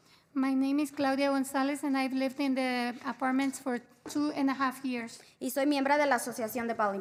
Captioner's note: spanish